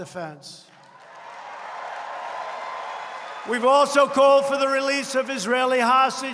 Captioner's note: applause